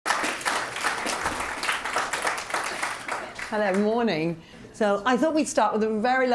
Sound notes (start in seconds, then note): 0.0 applause